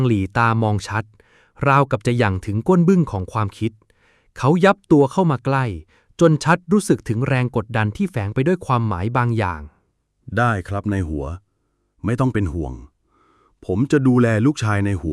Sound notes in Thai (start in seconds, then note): none